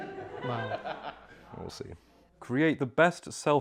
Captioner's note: laughter